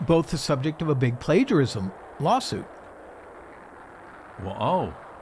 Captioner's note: rocket roaring